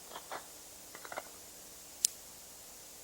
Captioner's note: gun cocking